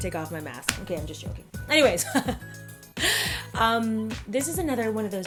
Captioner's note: laughing